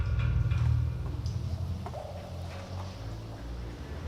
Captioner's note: water dripping softly